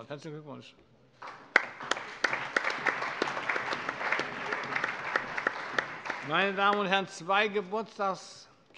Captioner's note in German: Allgemeiner Beifall